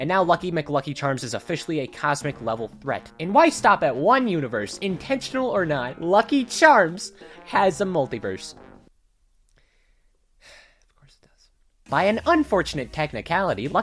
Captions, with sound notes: And now Lucky McLucky Charms is officially a cosmic-level threat And why stop at one universe? Intentional or not, Lucky Charms has a multiverse *frustrated exhale* Of course it does By an unfortunate technicality,